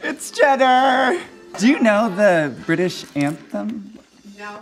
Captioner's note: hesitantly